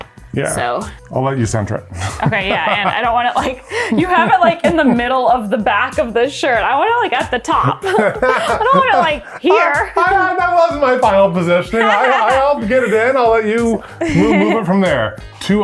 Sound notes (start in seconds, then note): 7.6 laughs